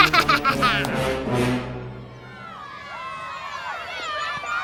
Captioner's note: cheering and shouting